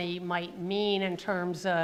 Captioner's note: none